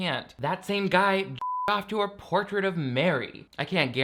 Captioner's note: beep